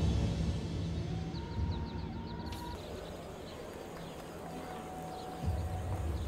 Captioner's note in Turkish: Kuş cıvıltısı sesleri